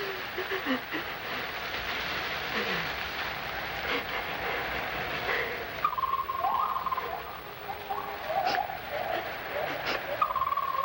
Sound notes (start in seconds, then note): 0.1 crying; 6.2 monkeys screeching